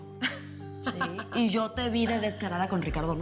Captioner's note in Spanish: Risas